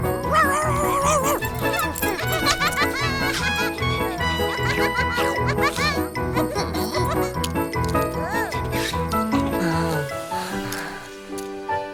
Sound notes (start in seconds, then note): 0.8 barking; 2.7 laughing